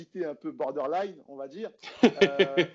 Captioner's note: laughs